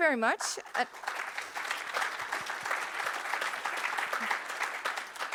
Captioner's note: audience applauding